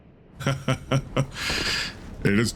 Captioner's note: laugh